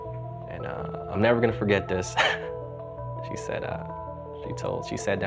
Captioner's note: laughs